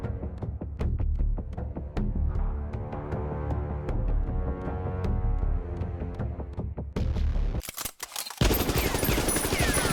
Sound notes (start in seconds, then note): 7.6 gun clicks; 8.4 silly amount of gunfire